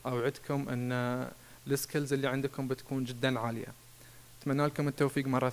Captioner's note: speaking in foreign language